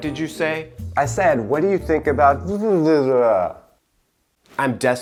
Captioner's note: jabbering